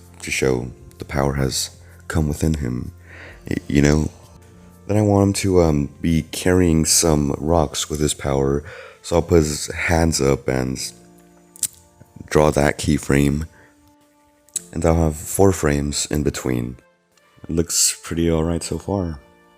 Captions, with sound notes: ...To show the power has come within him *BRETH* eYou know???><., Then I want him to, um, be carrying sum rox with his power *breeeath* So I'll put his hands up and... ...tch... ...Draw that keyframe. tch, And I'll have four frames in between Looks pretty alright so far.